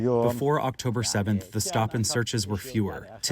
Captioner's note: through translator